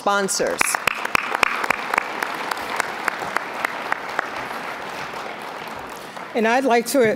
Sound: applause

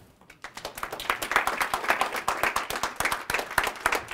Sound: audience clapping

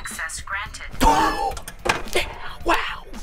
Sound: whispering

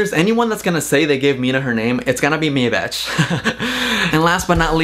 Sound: laughs

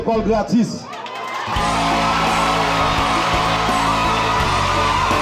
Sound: cheers and applause

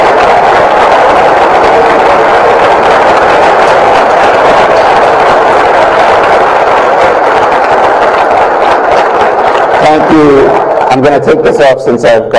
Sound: applause

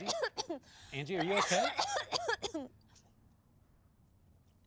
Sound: Angie coughs repeatedly; Angie keeps coughing

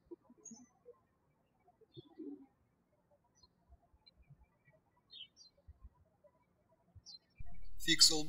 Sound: birds chirping

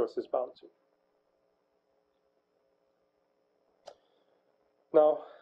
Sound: pause

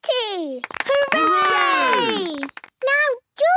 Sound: cheering, clapping

